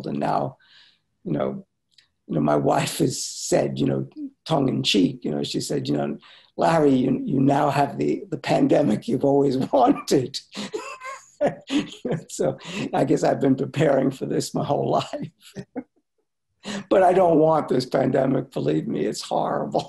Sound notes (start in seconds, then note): 9.4 laughs